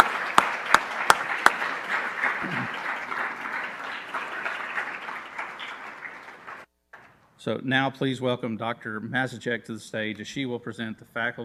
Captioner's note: applause